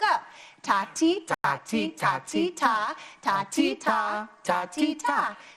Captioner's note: speaking to the rhythm